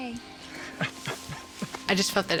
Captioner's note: laughing